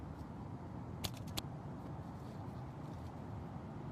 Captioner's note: bird thuds